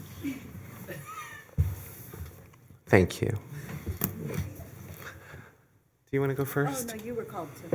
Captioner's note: laughter